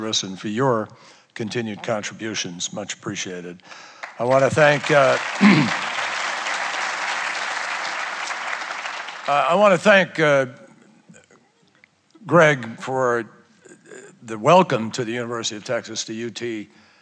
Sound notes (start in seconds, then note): 3.9 applause